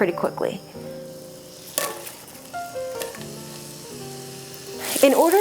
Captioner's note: butter sizzling